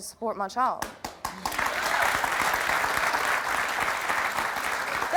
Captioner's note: audience applauding